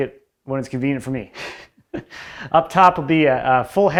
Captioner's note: chuckles